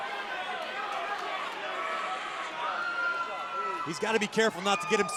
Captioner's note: crowd cheering